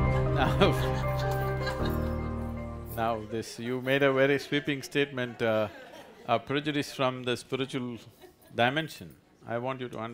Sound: laughs

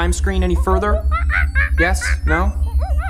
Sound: monkey noises

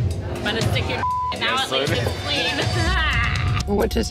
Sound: beep; laughs

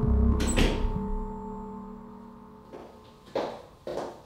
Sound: door closes

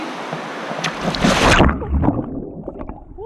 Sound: splash

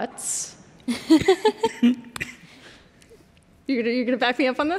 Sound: laughter

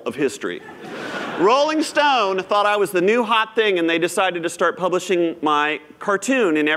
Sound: laughter

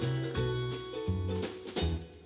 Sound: clatter

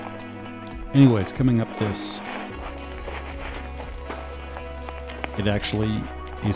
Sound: footsteps crunching

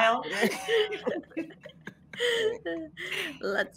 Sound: all laughing

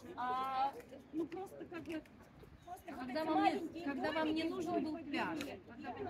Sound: people chatting in other languages

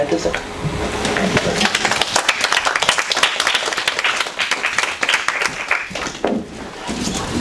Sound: audience applauds

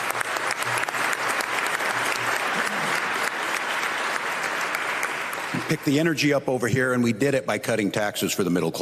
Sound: applause

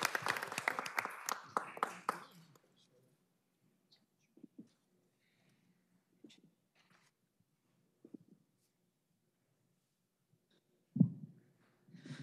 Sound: applause

